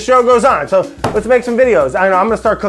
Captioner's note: slams